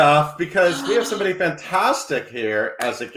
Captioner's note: gasps